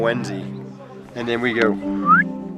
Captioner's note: whistles